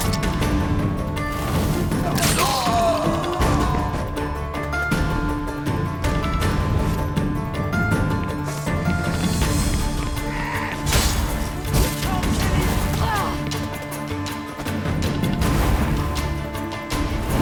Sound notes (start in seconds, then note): 2.1 cries out; 13.4 grunt